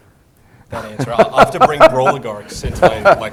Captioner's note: laugh